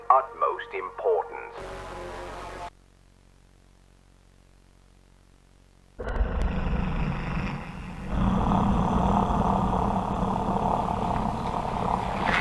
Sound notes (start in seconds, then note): 1.6 static and distortion; 6.1 creature growling